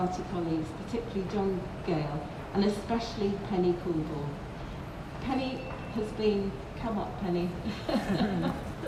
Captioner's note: 'Laughs